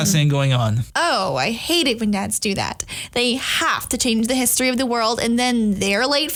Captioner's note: sarcastic